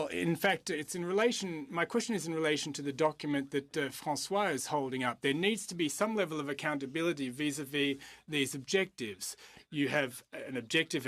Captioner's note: speaking french